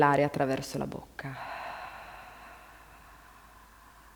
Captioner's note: exhale